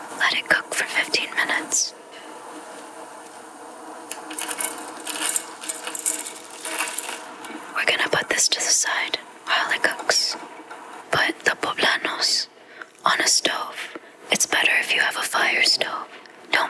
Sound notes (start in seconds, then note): 4.1 spaghetti clinking